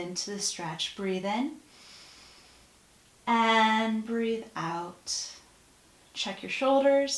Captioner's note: breath